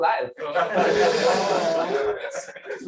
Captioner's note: laughter